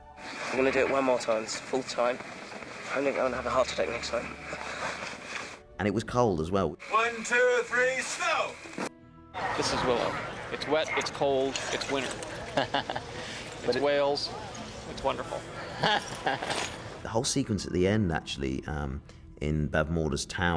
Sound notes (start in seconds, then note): 12.3 man Laughs; 15.7 laughs